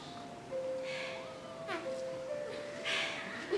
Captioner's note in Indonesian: Exhale